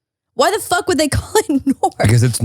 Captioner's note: chuckles